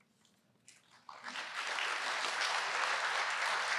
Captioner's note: applause